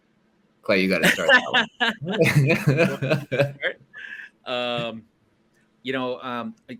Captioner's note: laughter